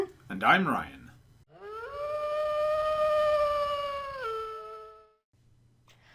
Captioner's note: distant wolf howl